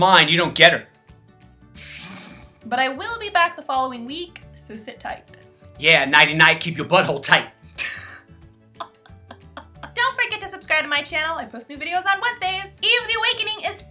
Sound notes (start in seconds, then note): 1.0 snort-laughs; 8.8 laughs